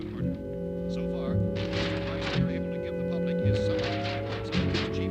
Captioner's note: murmuring